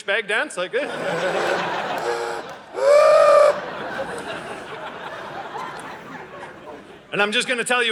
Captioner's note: audience laughing